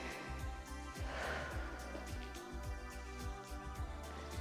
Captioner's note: inhales and exhales; gentle music